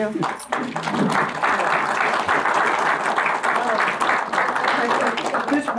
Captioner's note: audience applause